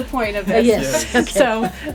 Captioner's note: laughter